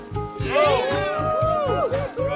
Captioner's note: upbeat music; group cheering